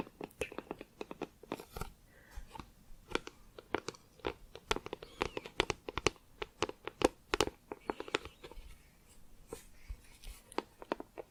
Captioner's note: tapping on plastic